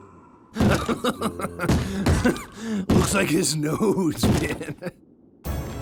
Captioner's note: laughing